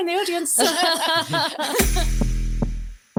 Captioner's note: laughs; upbeat music